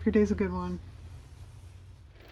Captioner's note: car motor